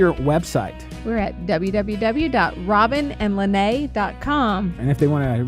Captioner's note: voiceover